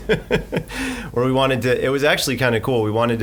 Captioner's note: laughing